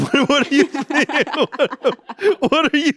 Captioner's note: everyone laughs